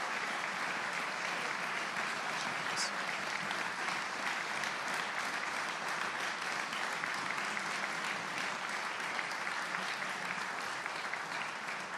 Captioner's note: applause